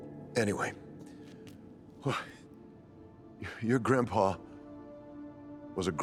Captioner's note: eerie music; sighs